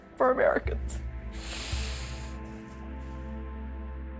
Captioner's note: sighing; dramatic music